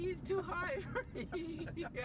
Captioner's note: laughing